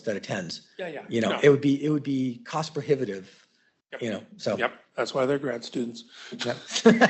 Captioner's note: laughs